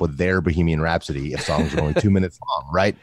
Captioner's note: laughs